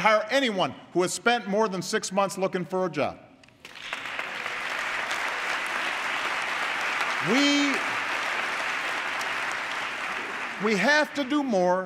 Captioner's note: applause